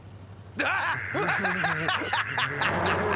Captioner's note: <i>both laughing</i>